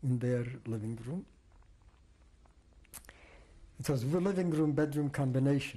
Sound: pauses for 3 seconds

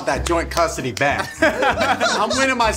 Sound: laughing

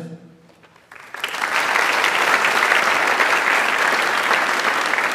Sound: audience applauds

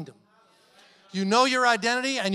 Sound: congregation murmuring agreement

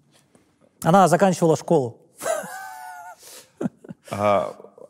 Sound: laughs

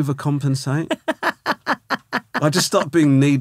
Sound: laughing

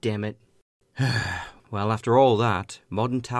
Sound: sigh

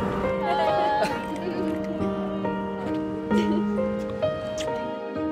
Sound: laugh

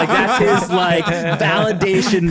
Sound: laughing

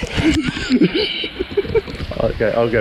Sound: laughs

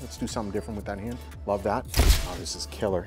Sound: camera shuttering

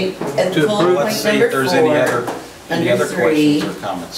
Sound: overlapping chattering

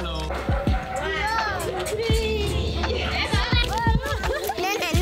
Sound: speaking Romanian

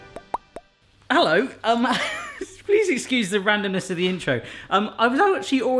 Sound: laughing

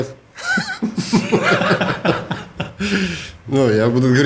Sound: both laugh

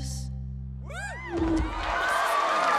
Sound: whooping; cheering

